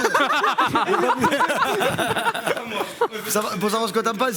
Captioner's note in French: rires